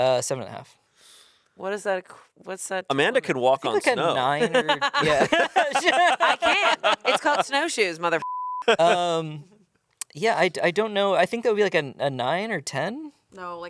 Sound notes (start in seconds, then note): 5.9 everyone laughs; 8.2 beep